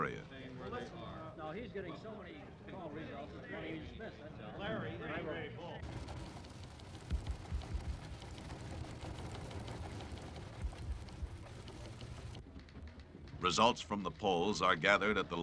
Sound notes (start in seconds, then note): 5.6 indistinct chatter; 11.7 machines click